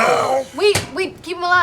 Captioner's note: gasps